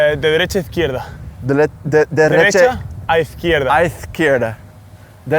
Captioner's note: speaks Spanish; speak Spanish